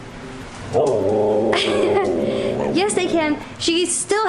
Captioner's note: talking